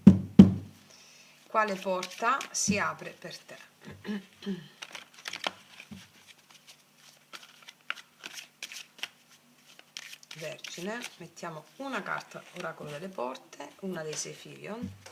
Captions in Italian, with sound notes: Quale porta si apre per te, [schiarire la voce] Vergine? Mettiamo una carta oracolo delle porte, una dei Sefirion.